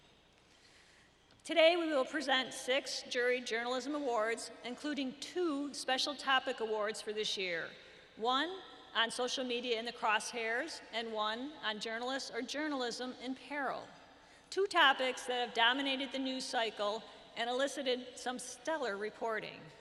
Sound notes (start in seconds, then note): none